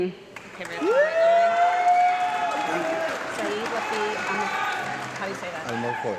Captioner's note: audience clapping and cheering